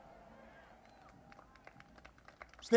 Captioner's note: applause